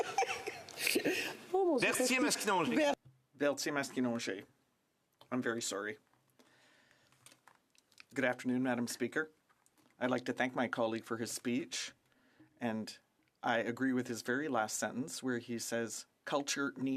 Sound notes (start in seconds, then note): 8.1 speaking French